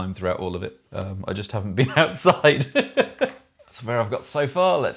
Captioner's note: laughs